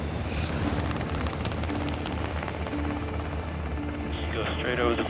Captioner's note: intense music; propellers spinning